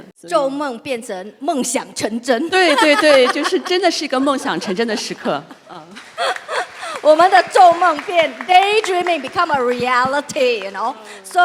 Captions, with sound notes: Dreams became a reality. [laughs] Right, right. This is the time when the dream became real. [clapping]